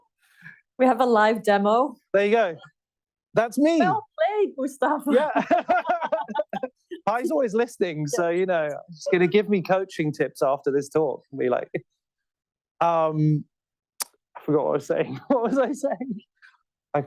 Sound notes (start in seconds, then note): 5.1 laughter